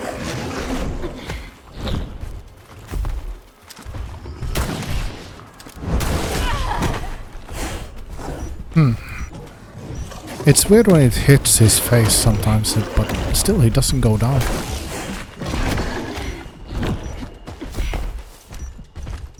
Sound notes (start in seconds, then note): 8.8 groaning; 8.8 panting